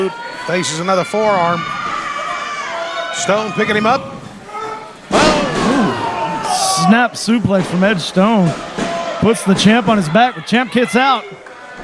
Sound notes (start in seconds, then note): 5.0 slamming sound